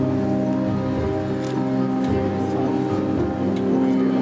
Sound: camera snapping; tender music

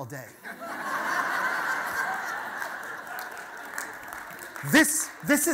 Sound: audience laughter

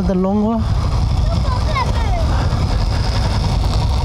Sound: kids Conversation

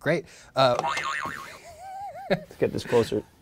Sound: boing sound

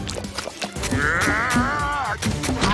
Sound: yelling; groaning

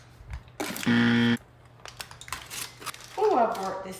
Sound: buzzer

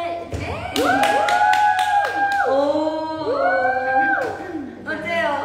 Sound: applause

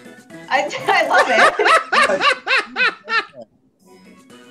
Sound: laughs

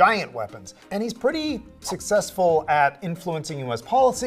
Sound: air whooshing

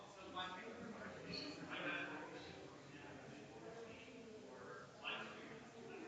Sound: people chattering distantly continues

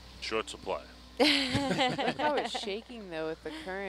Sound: group laughing

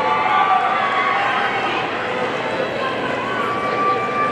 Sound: audience cheering

